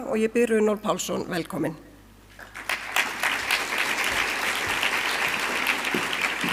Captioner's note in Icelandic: fagnaðarlæti